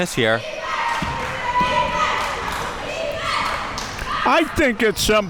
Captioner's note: crowd chanting